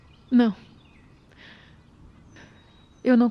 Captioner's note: none